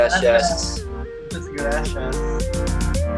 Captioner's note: in Spanish